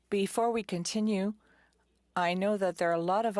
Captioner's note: speaking French